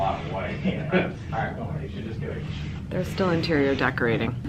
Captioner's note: men talk in the background